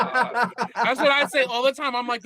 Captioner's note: laughing